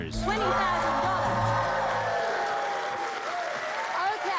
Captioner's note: cheers and applause